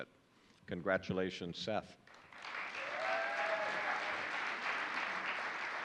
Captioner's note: audience applauding